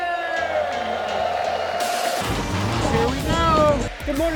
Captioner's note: crowd cheering